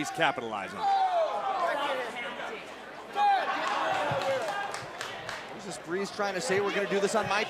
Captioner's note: crowd chatter